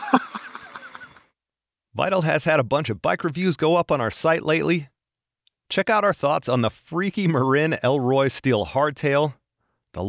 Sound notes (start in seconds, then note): 2.0 voiceover